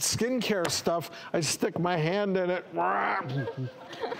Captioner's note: growls